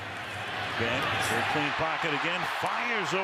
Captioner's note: cheers, applause